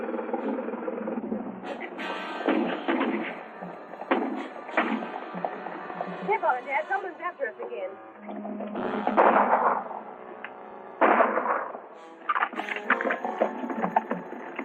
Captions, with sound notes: [gunshots and horses galloping] Keep on, Dad, someone's after us again. [gunshots and horses galloping]